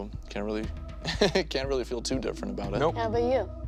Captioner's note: laughs